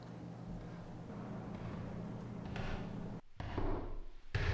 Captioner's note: footsteps tapping